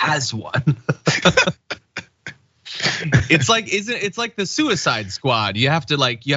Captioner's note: laugh